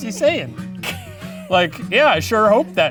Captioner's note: laughing